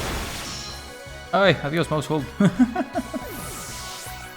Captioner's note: laughs in sad mice